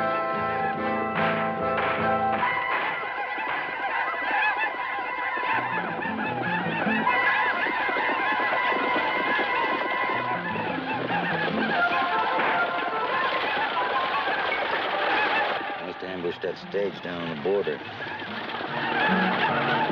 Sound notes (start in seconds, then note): 2.9 Apaches ululating; 2.9 gunfire banging; 19.6 Apaches ululating